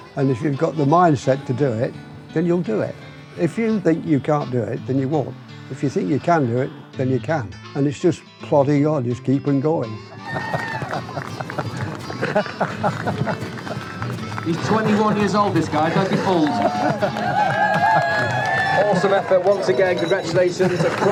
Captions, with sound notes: And if you've got the mindset to do it, then you'll do it. If you think you can't do it, then you won't. If you think you can do it, then you can. And it's just plodding on, just keep on going. [Crowd cheering] [Laughter] He's 21 years old, this guy, don't be fooled. Awesome effort once again, congratulations.